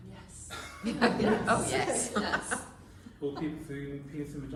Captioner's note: laughter “Oh, yes”